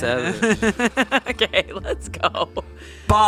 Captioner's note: laughs